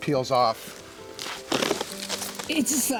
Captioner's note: creaking